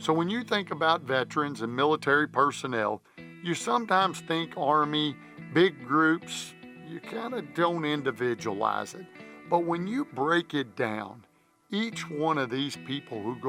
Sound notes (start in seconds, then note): none